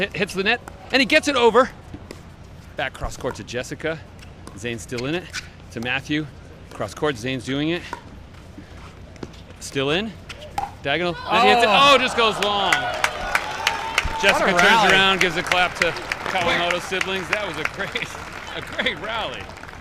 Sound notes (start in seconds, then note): 13.2 crowd cheers